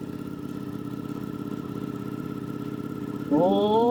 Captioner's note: engine rumbling